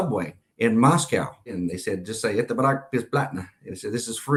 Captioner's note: russian phrase